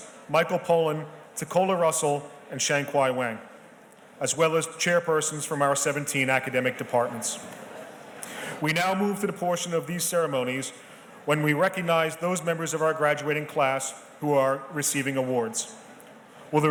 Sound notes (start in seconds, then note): none